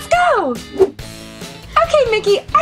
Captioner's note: air swooshes